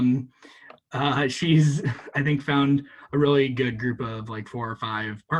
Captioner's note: chuckles